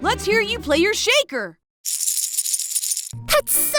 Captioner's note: rattling